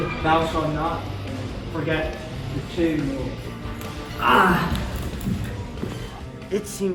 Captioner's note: pain sounds